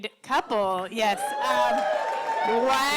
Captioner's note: cheering and applause